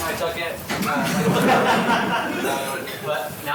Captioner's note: laughter